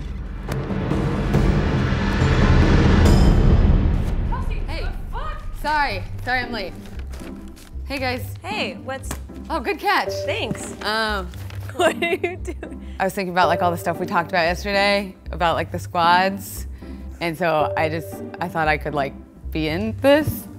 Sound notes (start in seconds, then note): 1.0 suspenseful music; 11.7 chuckles